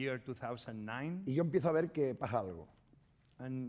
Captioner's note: speaking spanish